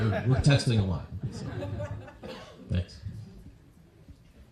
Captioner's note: laughter